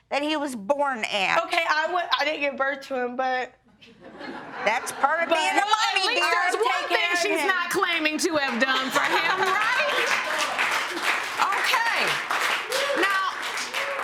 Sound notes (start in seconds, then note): 8.8 laughter